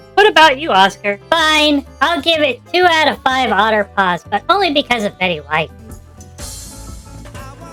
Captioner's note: sighs